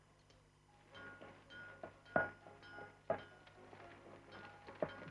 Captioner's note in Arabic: صوت المطرقة